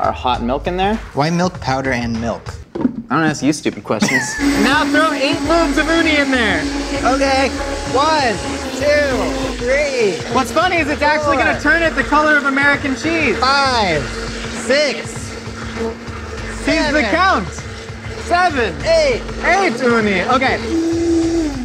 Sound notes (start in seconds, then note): 4.5 blender whirring